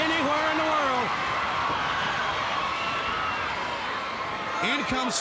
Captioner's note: crowd cheering